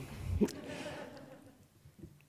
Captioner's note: laughter